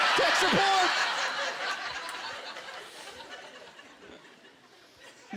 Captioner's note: laughter